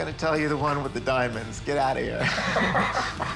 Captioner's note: both laugh